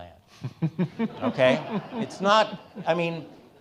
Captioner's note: all laughing